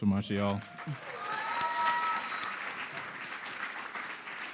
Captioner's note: audience applauding